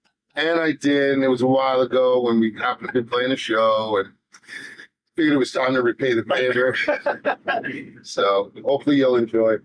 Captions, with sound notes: And I did. It was a while ago when we got up and been playing a show. But it was time to repay the favor. (laughing) So hopefully you'll enjoy.